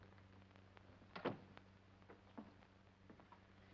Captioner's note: door closes